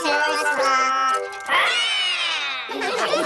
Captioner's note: all roar; all laughing